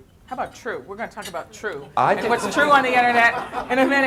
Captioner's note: laughter